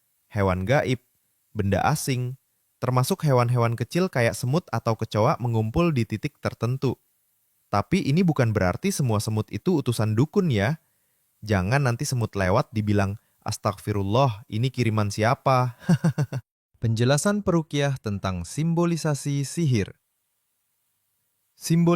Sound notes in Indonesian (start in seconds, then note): 15.8 tertawa